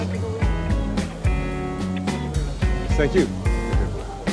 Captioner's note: speaks foreign language